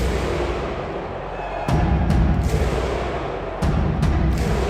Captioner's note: crowd cheering